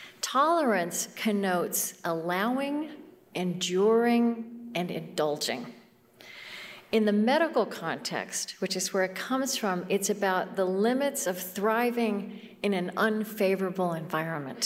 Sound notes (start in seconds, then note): none